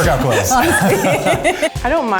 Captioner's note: everyone laughs